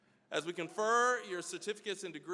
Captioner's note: none